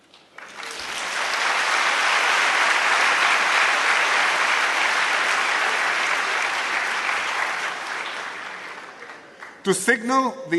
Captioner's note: applause